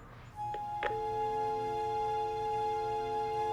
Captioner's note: click, Dial tone